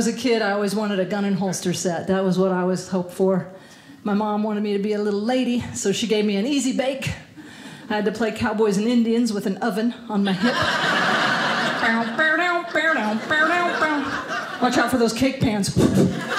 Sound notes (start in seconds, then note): 10.3 audience laughing